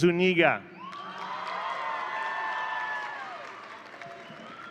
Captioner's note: audience cheering